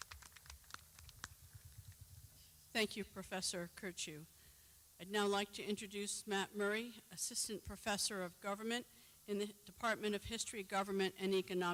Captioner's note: clapping